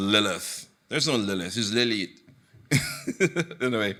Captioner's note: chuckles